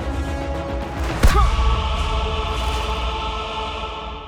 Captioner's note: dramatic music; Isaac moaning